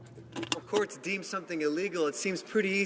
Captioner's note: speaking French